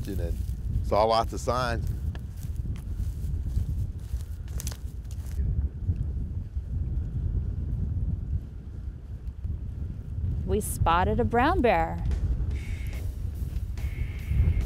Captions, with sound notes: THE OCEAN AND SAW LOTS OF SIGN. [WIND GUSTING] - WE SPOTTED A BROWN BEAR.